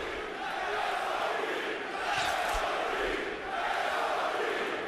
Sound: chanting

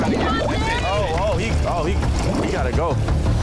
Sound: water gurgling

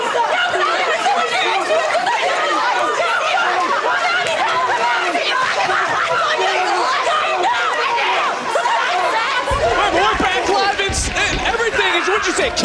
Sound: yelling

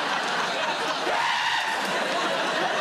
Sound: screeching noise

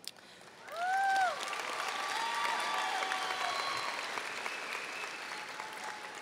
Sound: audience cheering and applauding

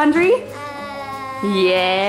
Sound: stutters

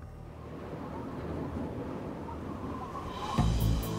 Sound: wind howling; suspense music

